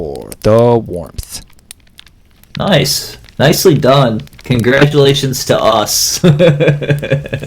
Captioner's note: laughs